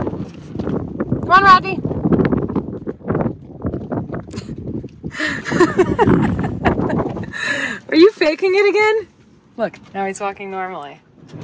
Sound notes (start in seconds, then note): 5.1 laughing